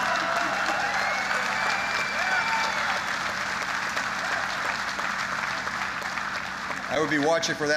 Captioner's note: applause